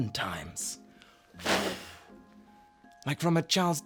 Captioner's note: blows